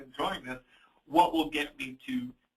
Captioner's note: chuckles